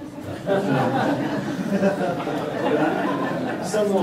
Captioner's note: laughter